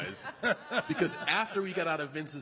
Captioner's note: laughing